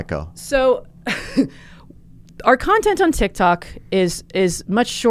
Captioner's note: laughs